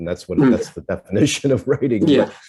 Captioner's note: brief laughter